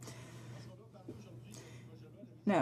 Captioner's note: speaking French